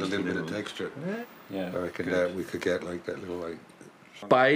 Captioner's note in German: Leises Gespräch auf Englisch